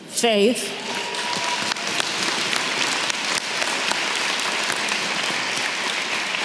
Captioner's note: audience cheering and clapping